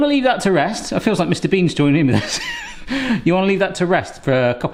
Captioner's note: chuckles